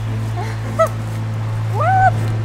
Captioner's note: laughs